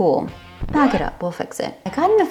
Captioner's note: record scratch